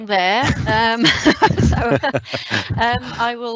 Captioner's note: laughs